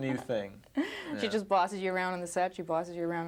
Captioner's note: reporter laughing